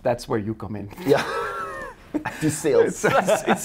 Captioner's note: laughs